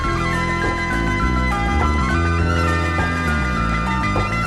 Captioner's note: none